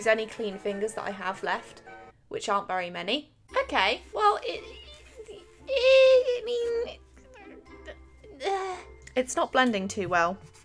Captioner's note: makes weird noises, then sighs